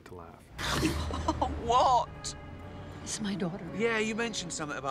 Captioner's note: exclaiming